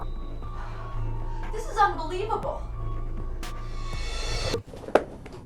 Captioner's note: time start noise